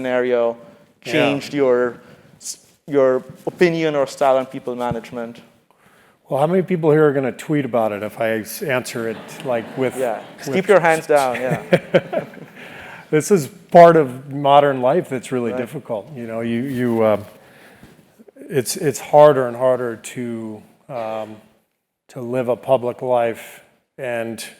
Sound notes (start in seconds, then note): 12.1 laugh